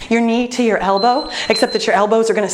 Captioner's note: beeping